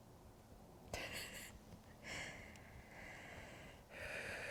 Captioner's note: laughs